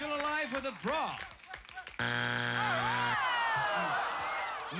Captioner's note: buzzer